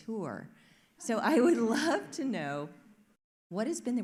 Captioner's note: audience laughs